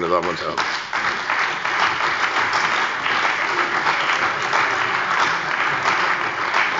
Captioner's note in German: Beifall bei der CDU und dem BÜNDNIS 90/DIE GRÜNEN